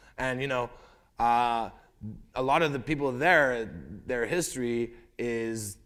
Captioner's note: none